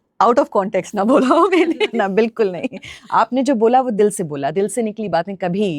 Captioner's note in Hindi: हंसी